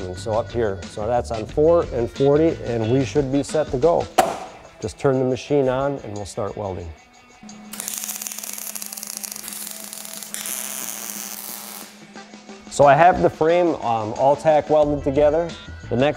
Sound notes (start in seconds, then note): 7.4 popping